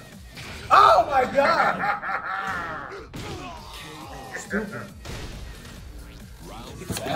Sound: laugh

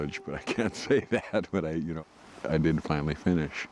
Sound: laughing

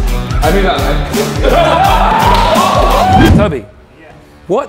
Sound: group laughs

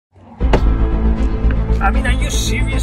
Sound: thump

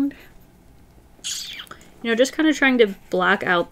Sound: mouth kiss

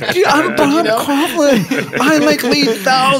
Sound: laughter

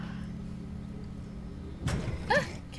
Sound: thud

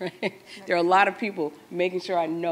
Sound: laughs

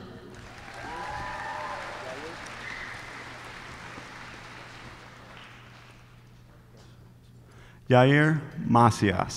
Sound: applause

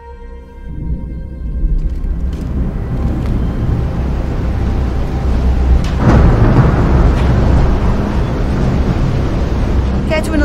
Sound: ominous thunder

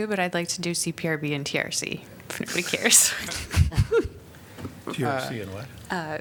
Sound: laughter

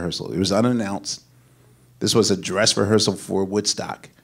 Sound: none

